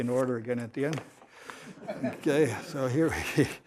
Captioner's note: laughter